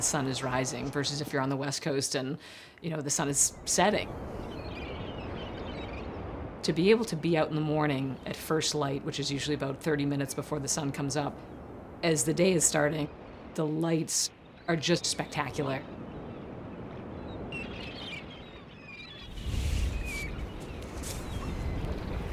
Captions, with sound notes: the sun is rising, versus if you're on the West Coast and the sun is setting. (seagulls calling) To be able to be out in the morning at first light, which is usually about 30 minutes before the sun comes up, as the day is starting, the lights are just spectacular. (wind gusting)